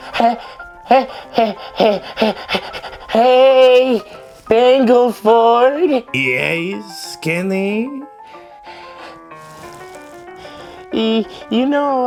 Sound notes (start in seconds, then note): 0.8 panting